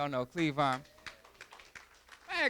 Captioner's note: applause